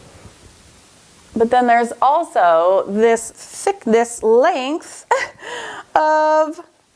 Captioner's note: laughs